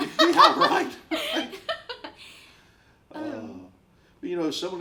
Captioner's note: both laughing